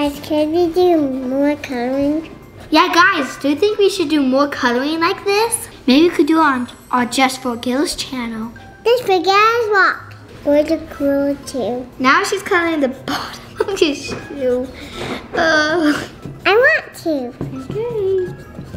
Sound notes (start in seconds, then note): 13.1 chuckles